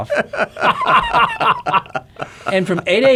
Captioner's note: men chuckle